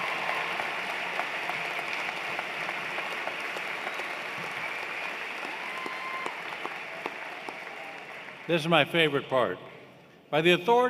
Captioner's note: applause